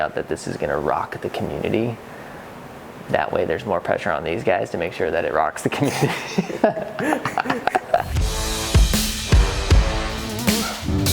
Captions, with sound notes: this is gonna rock the community. That way there's more pressure on these guys to make sure that it rocks the community. (laughs) (hip-hop music)